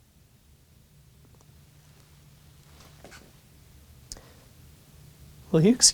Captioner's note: uncomfortable silence